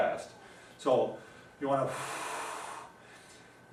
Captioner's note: exhaling